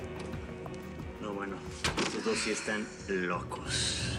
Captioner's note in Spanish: Ruido al cerrar